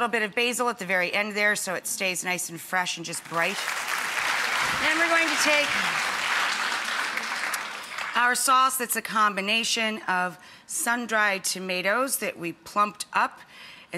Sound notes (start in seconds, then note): 3.2 audience clapping